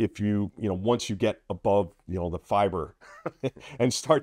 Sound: laughing

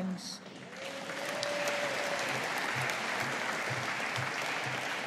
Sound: audience applauding

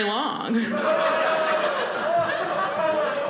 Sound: audience laughing

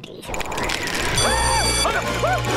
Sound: screaming

